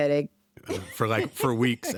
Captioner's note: chuckles